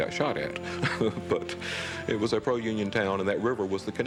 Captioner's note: chuckles